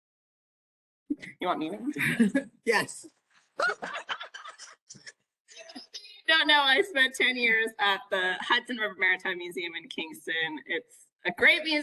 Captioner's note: laughing